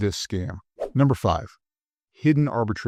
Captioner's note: air whooshing